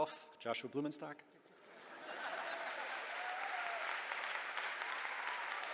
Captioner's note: laughter, applause